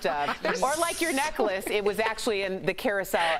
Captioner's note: laughter